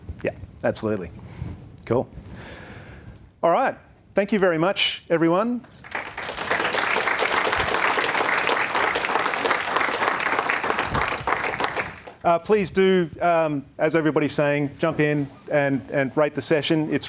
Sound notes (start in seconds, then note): 5.6 audience applauds